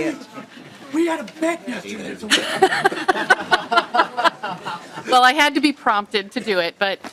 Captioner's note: laughing